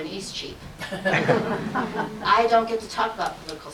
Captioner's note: audience laughs